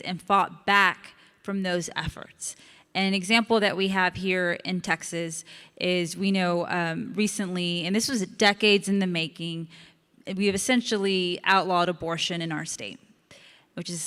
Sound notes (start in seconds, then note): none